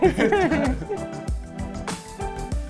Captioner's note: giggling; bright music